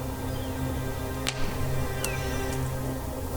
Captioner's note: smacks hat